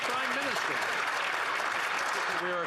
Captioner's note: some Applause